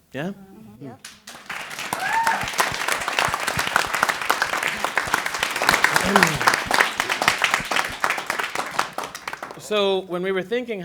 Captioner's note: applause